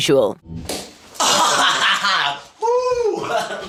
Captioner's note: laughing